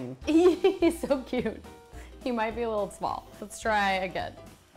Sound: laughs

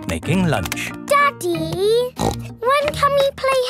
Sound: snorts

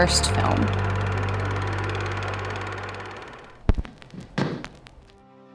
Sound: movie projector whirring

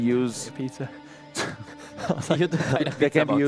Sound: laughter

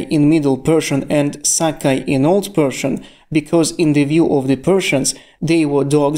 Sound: in Old Persian

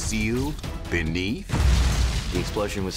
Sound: explosion

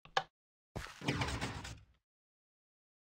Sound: vault door closes

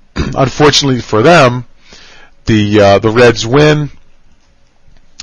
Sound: cough

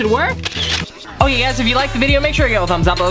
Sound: camera shutter

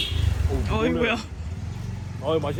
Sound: merciless honking

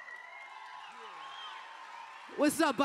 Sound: cheers

